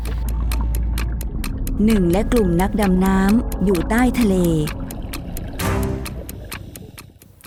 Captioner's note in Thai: เสียงนาฬิกาเดิน